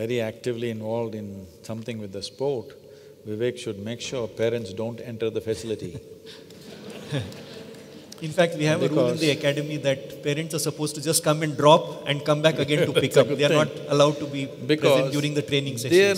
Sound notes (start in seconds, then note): 6.4 laughter; 12.7 Sadhguru Laughs